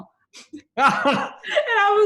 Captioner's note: laughs